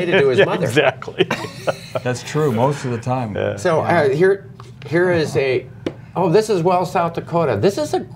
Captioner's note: laughter